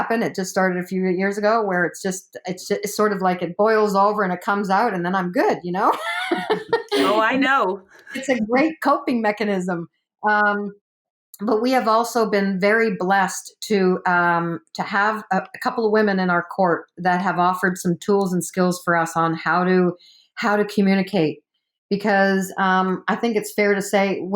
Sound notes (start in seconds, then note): 5.9 laughs